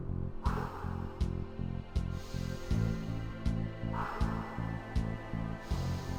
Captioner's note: breathes deeply